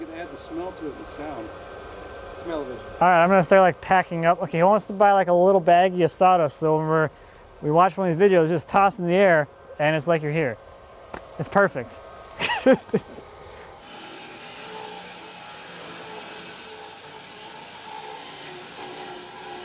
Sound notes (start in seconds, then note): 12.4 laughing; 13.7 saw blade humming